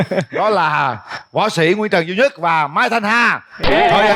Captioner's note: laugh; laugh